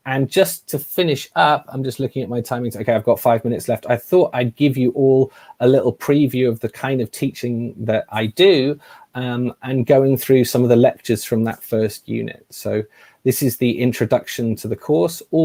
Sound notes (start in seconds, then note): none